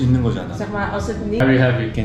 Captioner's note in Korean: 네덜란드어 통역중